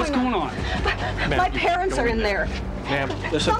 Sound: panting

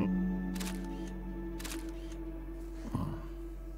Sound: picture clicking

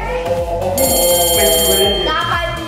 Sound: bell ringing

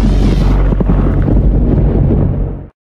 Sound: whoosh

